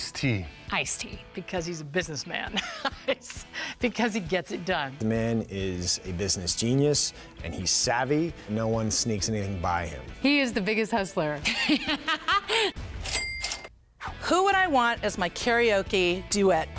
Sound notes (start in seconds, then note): 2.5 chuckling; 11.4 laughs; 13.1 ka-ching!